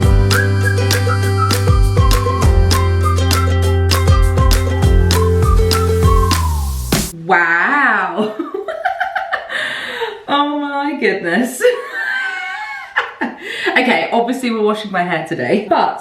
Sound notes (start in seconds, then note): 0.0 upbeat bright music; 8.4 laughing; 12.5 laughing